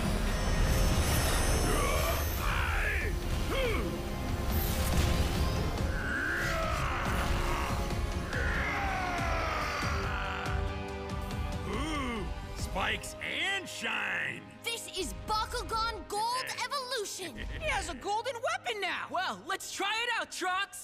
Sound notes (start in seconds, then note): 1.6 grunting, screaming; 5.8 roaring